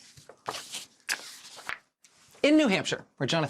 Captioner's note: paper rustling